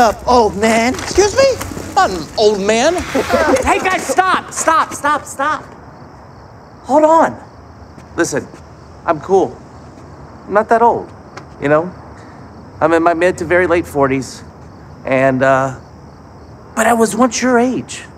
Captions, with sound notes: -Old man. -Excuse me?! I'm not an old man. -(Boys laugh) -Hey, guys, stop. Stop, stop, Stop. Hold on. Listen, I'm cool. I'm not that old. You know? I'm in my mid-to-very-late 40s, and, uh... But I was once your age.